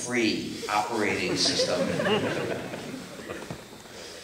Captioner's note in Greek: Γέλια από το ακροατήριο